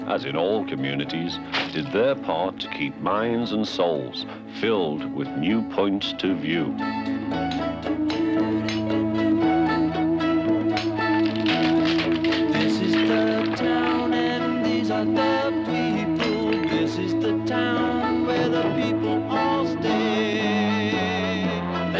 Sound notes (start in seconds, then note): 8.1 pounding; 11.9 cracking